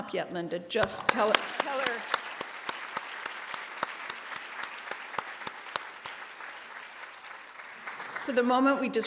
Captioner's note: applause